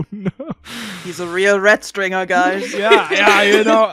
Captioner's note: laughter